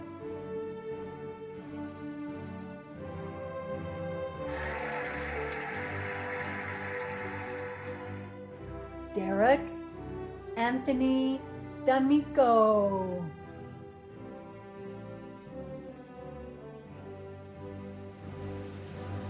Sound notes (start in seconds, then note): 4.4 cheering and applauding; 14.3 cheerful music